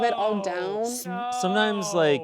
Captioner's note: voiceover